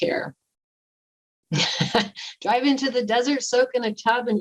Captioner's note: laughter